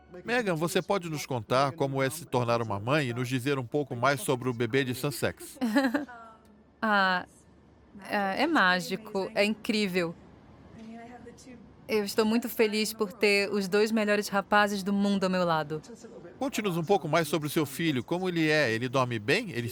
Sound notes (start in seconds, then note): 5.6 laughs